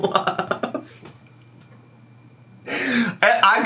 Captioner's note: laughs